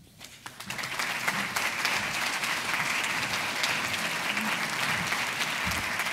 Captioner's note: applauding